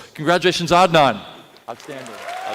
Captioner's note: applause